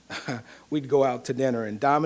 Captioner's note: laughs